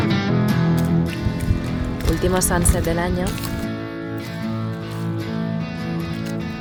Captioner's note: in spanish